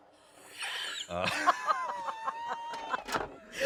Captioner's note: laughing